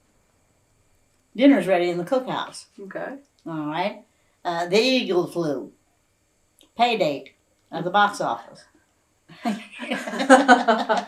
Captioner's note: laughter